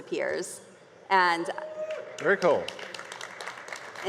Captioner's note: light applause and cheers